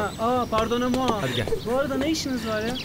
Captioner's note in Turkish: fransızca konuşuyorlar